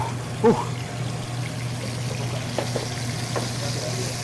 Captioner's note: sizzling